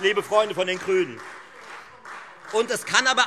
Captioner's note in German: Beifall Freie Demokraten